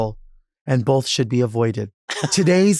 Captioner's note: laughs